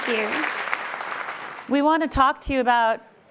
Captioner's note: applauding